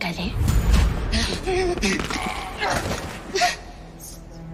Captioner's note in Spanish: Jadeos y quejido